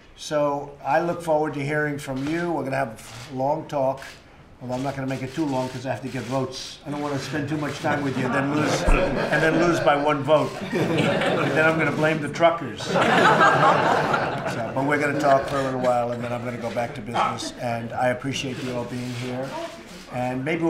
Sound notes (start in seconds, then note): 11.1 laughter